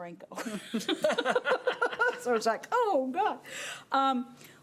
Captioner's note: laughing